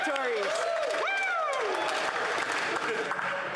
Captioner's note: cheering and Applause